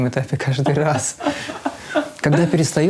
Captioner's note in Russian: Ира смеётся